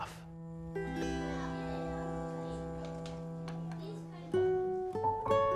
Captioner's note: children chatting